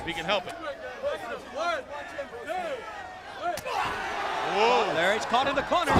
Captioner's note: crowd chatter